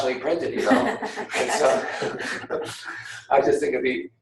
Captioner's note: laughing